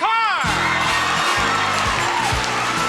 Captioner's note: audience cheering; cheerful music